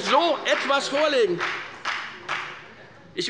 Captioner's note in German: Beifall bei der FDP